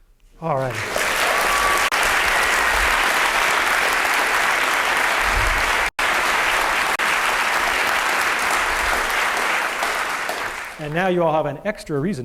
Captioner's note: applause